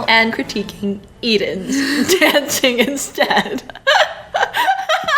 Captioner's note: laughs